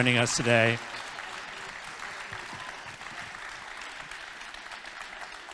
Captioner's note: congregation applauding